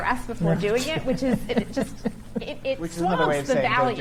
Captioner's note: chuckles